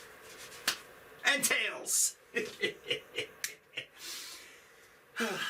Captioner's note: laughs